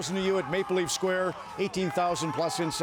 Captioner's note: crowd noise